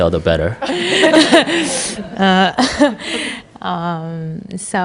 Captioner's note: questioner/ Audience laughter